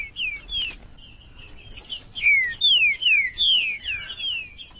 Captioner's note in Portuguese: trinca ferro cantando